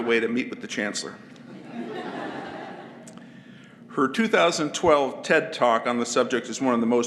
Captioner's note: laugh